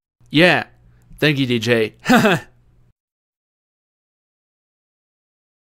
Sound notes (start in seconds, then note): 3.0 silence